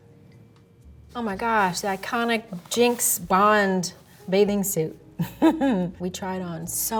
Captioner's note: chuckles